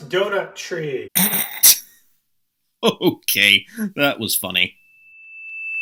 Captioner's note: snickers